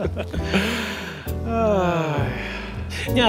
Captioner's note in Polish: śmiech; jednoczesne westchnienie